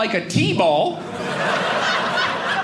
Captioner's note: audience laughing